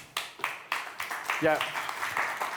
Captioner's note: applause